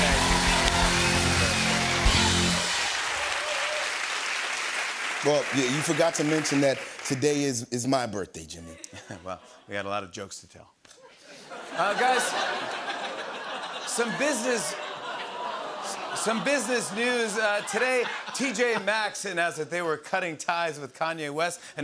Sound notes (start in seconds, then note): 0.0 cheers and applause; 13.1 audience awws